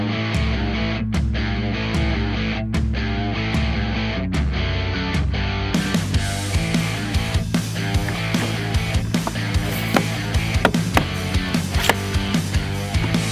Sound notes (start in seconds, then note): 10.5 hammering